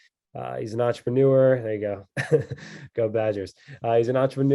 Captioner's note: chuckles